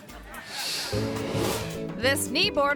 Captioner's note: audience laughing